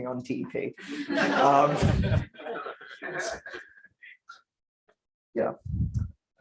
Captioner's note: laughter